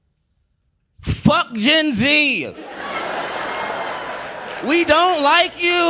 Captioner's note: audience laughing